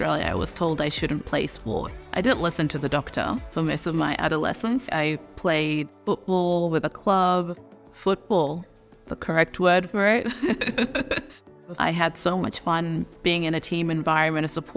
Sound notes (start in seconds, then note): 10.4 laughs